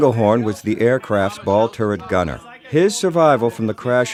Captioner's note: non-english speech